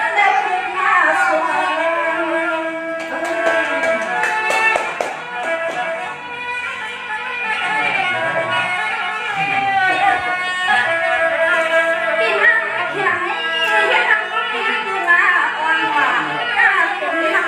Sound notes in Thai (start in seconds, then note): 2.9 ปรบมือ